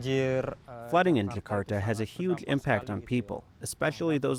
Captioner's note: through translator